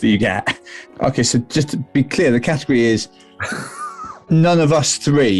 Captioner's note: sniggering